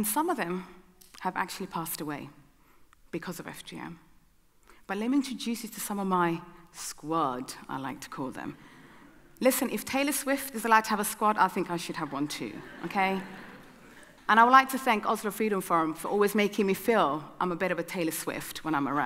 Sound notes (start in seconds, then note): 12.4 audience laughing